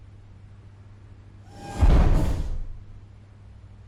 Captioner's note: robotic footstep